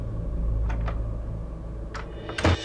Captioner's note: Door Closes